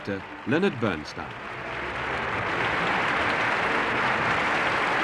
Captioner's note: audience applauding